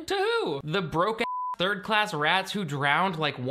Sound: beep

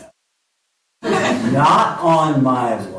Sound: laughter

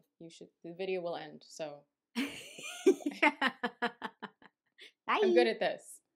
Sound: laughter

